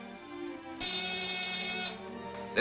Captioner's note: buzzer buzzing